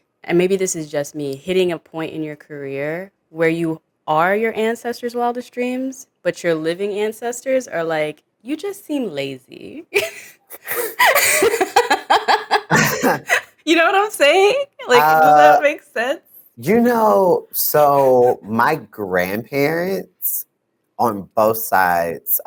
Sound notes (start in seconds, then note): 9.9 laughs